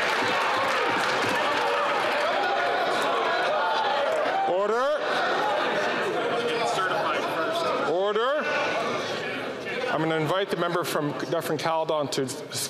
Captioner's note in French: applaudissements